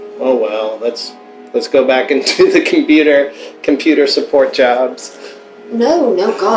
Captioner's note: laughter